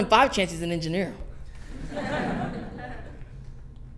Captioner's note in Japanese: 笑い声